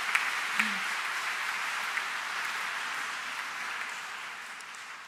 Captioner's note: audience applauds